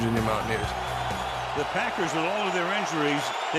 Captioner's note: crowd cheers